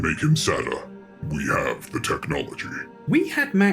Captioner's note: in a super deep voice